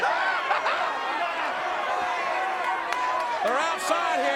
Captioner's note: crowd shouting; Jerry laughing